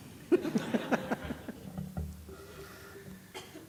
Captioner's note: laughter